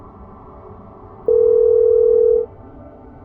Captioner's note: phone ringing